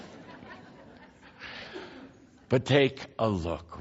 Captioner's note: laughter